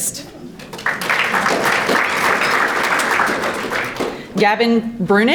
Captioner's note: audience applauding